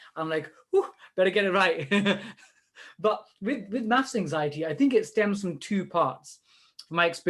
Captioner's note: laughs